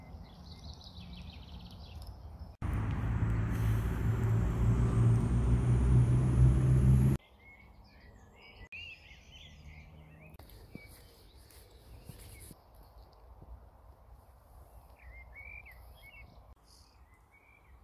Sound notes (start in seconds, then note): 2.6 bus sound; 8.0 bird sounds